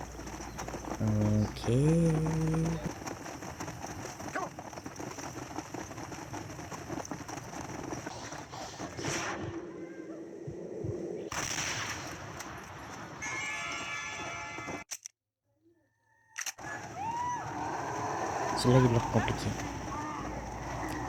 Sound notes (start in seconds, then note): 3.2 horse running fast; 9.1 screams of wolves and bats; 11.3 explosion of bullets; 15.2 sounds of challenge pages